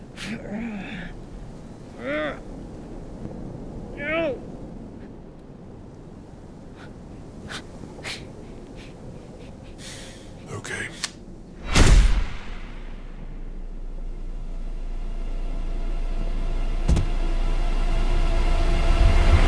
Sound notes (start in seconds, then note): 0.2 Jaymee grunting; 11.6 bullet firing; 14.2 suspenseful music